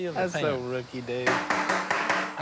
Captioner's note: tapping